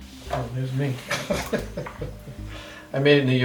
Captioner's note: laughs